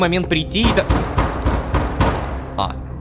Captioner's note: knock on the door